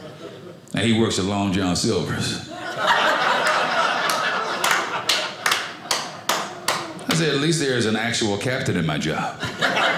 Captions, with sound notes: and he works at Long John Silver's. (audience laughing) (audience applauding) I said, at least there is an actual captain in my job.